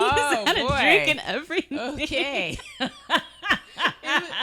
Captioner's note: laughing